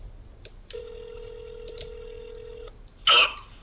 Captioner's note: phone ringing